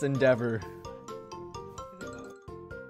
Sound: sarcasm

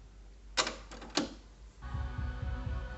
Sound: cassette deck engages

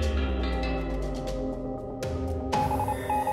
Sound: beeping

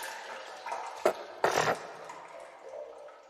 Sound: snorts

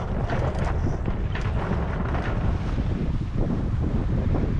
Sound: wind blowing

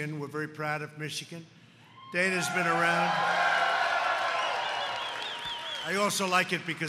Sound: applause

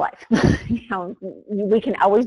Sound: laughs

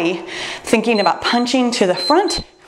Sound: timer beeps

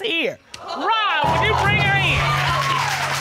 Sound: audience exclaims

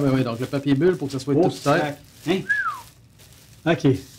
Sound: impressed exclamations

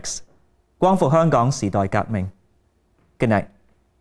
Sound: speaking in Cantonese

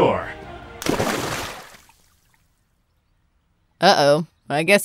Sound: water splashes

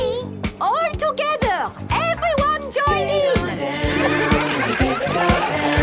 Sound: laughter

